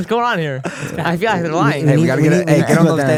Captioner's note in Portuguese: risos